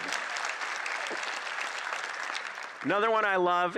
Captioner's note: applause